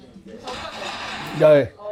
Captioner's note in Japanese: ガシャン！